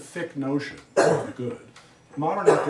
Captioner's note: student coughs